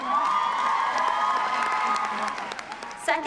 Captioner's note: cheers and applause